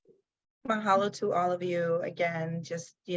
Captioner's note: speaks in foreign language